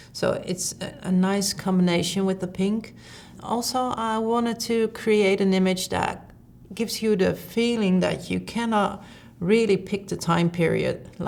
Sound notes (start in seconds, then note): none